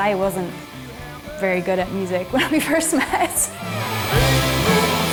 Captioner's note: laughs